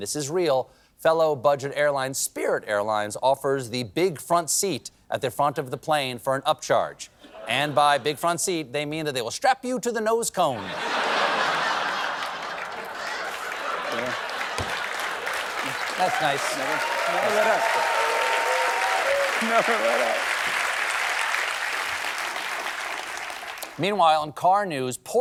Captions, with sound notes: NOT TO BE OUTDONE -- AND THIS IS REAL -- FELLOW BUDGET AIRLINE SPIRIT AIRLINES OFFERS THE "BIG FRONT SEAT" AT THE FRONT OF THE PLANE FOR AN UPCHARGE. AND BY "BIG FRONT SEAT," THEY MEAN THEY WILL STRAP YOU TO THE NOSE CONE. [APPLAUSE] THAT'S NICE. MEANWHILE, IN CAR NEWS,